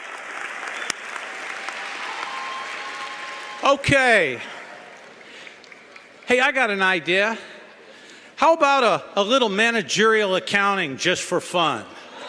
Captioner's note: cheering & Applause